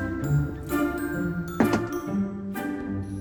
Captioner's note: door closes